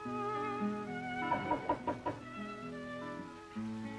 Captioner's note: knocking at door